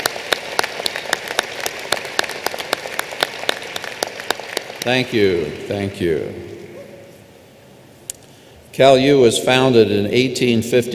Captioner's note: applause